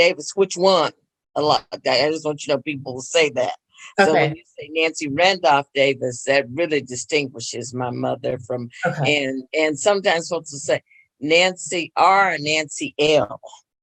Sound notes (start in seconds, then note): 12.0 laughs